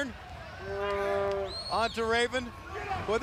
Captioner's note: crowd chatter